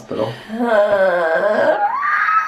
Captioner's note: groans